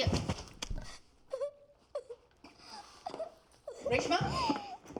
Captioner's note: whimpering